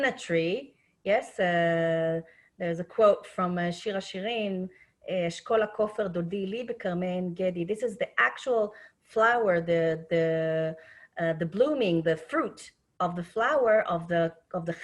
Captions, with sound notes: Yes. There's a quote from Shir Hashirim, (speaking Hebrew) This is the actual flower, the blooming, the fruit of the flower of the henna,